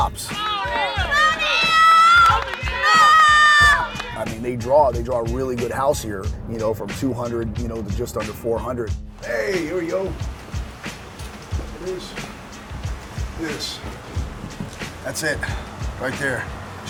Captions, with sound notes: -Oneal! -Oneal! [crowd cheering and clapping] -Oneal! -Oooo! - I mean, they draw, they draw a really good house here. You know, from 200 there's just under 400. - Hey, here we go. [upbeat music playing] This. [upbeat music playing] This. [thumping] That's it. Right here.